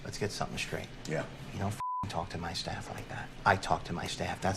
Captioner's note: beep